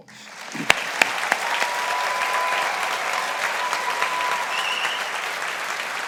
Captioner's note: audience applauding